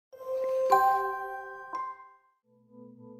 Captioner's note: chimes